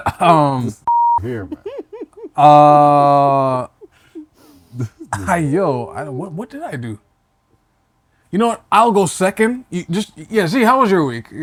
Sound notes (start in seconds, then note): 1.2 laughter